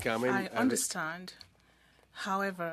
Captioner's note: speaking French